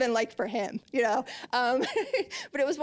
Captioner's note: laughing